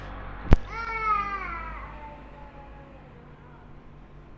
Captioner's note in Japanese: 泣き声